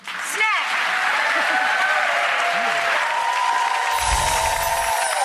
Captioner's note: cheers and applause